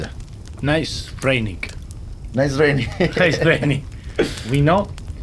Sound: laughs

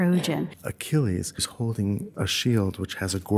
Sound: voiceover

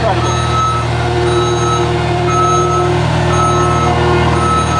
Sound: machinery noises and beeping

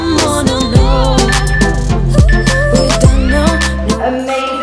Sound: countdown timer beeping

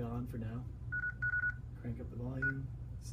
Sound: beeping

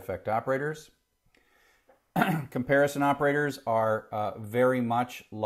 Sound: cough

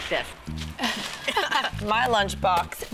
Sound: laughing

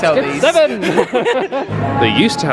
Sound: laugh

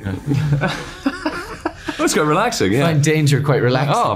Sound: laughing

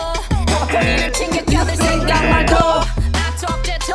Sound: buzzer rings

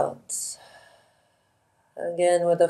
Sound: instructor exhales slowly

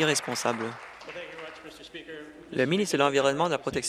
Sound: applause

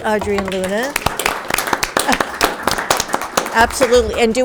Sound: audience clapping

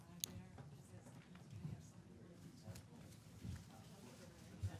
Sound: people chattering

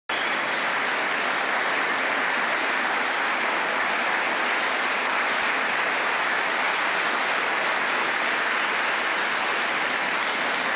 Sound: applause

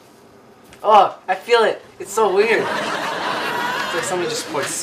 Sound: audience laughs

